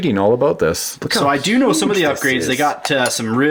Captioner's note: voiceover